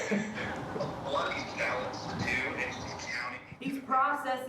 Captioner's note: indistinct chatter